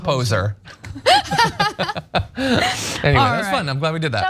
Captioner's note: laugh